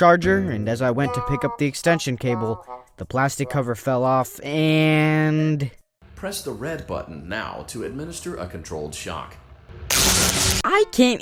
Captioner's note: shock Noises